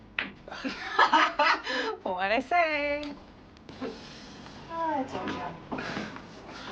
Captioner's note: laughs